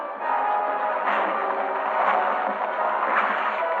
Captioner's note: truck thudding